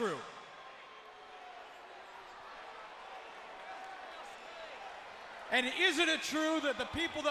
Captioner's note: crowd chatter